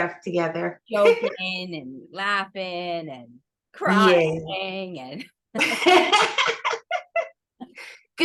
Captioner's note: laughs